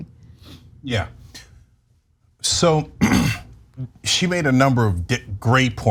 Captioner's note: cough